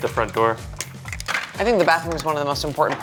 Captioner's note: lego blocks clacking